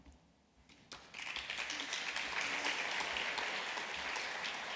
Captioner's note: applause